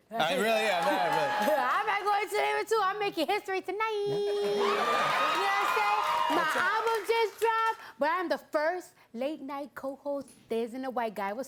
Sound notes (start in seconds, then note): 0.4 cheers and applause; 4.3 cheers and applause